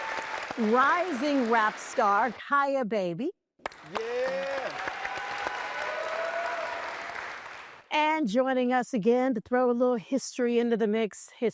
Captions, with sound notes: Rising Rap Star, Kyah Baby. -[applause] -Yeah! And joining us again to throw a little history into the mix,